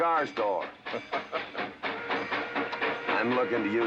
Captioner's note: train chugging & whistle blowing